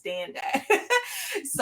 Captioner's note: laughs